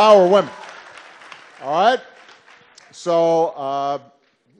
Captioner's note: applause